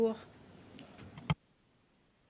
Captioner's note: speaking French